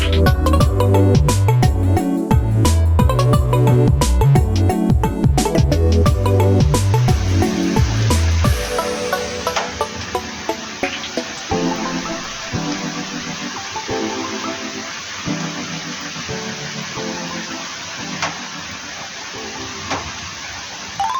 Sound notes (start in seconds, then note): 6.0 sound of rain